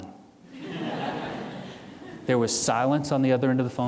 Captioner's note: audience laughing